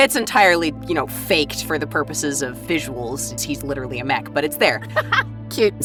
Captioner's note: laughs